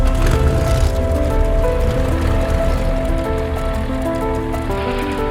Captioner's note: dramatic music; plane engine whirring